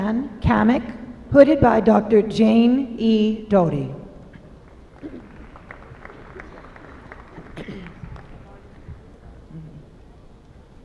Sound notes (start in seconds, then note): 4.6 applause